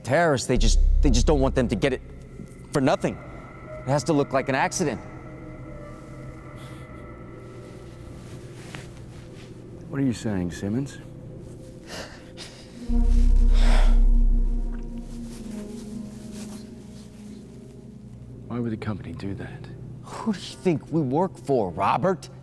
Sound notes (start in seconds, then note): 13.3 exhales deeply; 15.5 eerie music continues